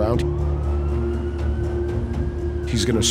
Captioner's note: siren wailing in distance